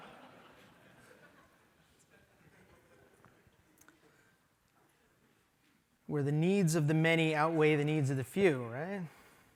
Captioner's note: laughter